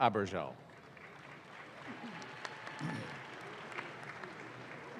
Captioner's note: audience claps